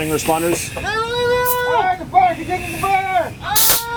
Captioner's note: men shouting